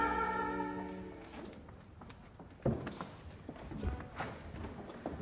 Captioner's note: footsteps thudding